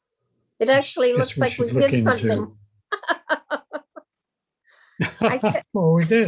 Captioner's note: chuckles